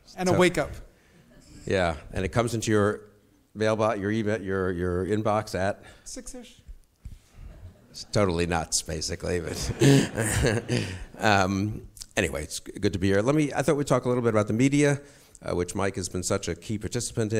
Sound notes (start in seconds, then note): 4.0 stutters; 6.7 audience sniggers; 9.5 laughs